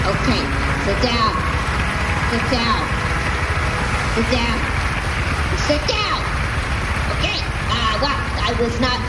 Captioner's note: shouting; applause dies down